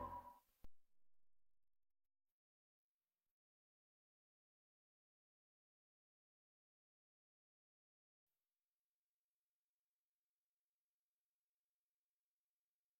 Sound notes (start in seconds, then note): 3.3 silence; 9.6 silence